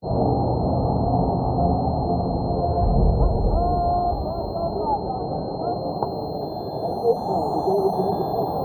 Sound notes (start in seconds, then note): 0.5 muffled crowd chattering; 4.0 high- pitched ringing